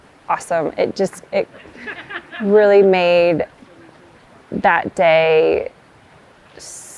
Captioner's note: tourist laughing